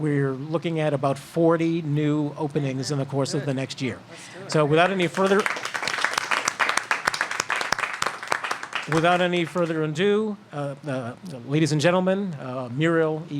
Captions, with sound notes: WE'RE LOOKING AT ABOUT 40 NEW OPENINGS IN THE COURSE OF THE NEXT YEAR. SO WITHOUT ANY FURTHER -- [ APPLAUSE ] >> WITHOUT ANY FURTHER ADO, LADIES AND GENTLEMEN, MURIEL